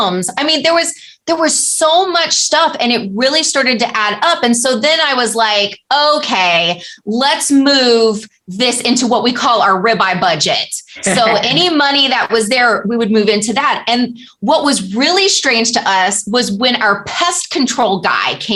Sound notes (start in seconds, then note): 11.0 laughter